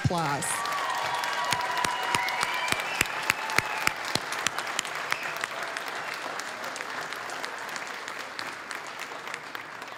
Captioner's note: applause, cheering; applause